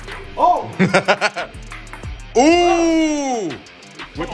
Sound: laugh

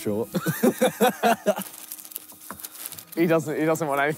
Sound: both laughing

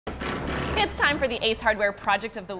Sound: tool drilling

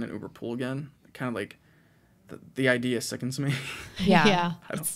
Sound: chuckles

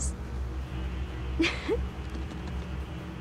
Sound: laughs

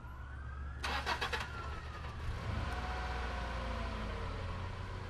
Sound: car engine rumbling

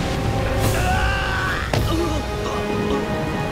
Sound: screaming

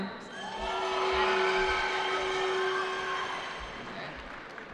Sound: cheering

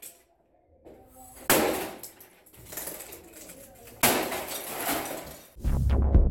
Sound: whacking & clattering; techno

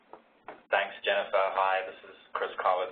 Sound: voiceover

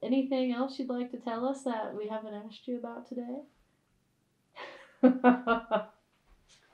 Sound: laughter

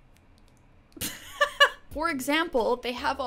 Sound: laughing

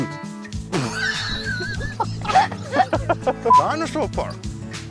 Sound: laughs

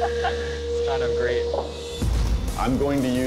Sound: laughs

